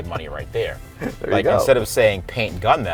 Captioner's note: laughing